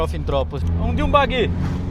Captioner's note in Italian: rombo di motore